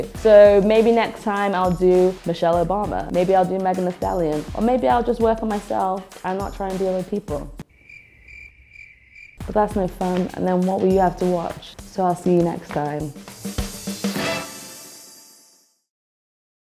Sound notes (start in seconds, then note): 7.6 crickets chirping; 13.9 upbeat music